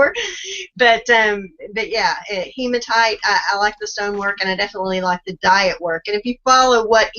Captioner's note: laughs; laughs